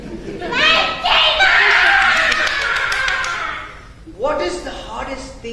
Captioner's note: laughs